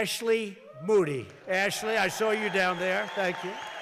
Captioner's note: applause